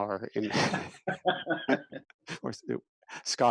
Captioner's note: laughing